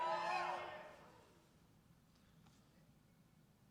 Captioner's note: cheers and applause